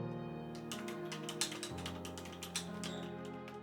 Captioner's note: keyboard clicks